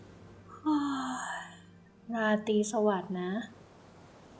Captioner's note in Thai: เสียงหาว